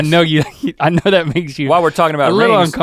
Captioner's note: Links chuckles